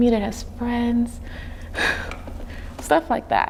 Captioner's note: sighing